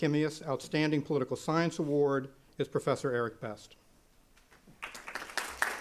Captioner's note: applause